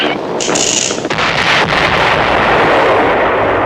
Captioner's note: explosion